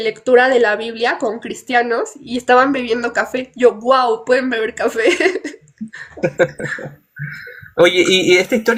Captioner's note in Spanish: risas